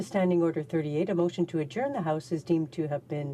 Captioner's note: speaking French